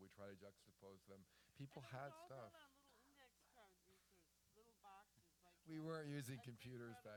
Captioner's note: off mic